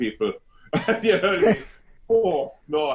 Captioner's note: laughs loudly